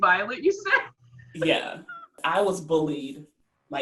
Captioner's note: laughs